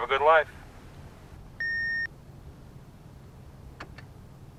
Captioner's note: beeping